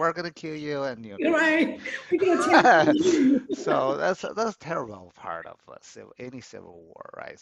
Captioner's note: laughs